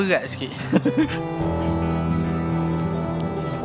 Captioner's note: laugh